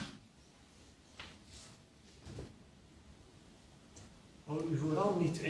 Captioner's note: silence